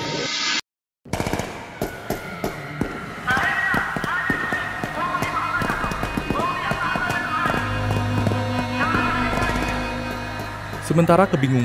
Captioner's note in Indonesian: suara tembakan dan teriakan